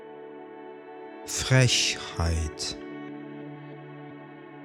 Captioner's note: german